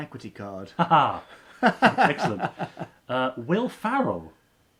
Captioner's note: laughing